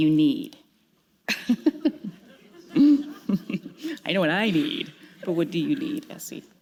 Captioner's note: chuckle